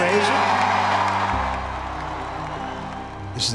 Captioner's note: crowd cheers and applauds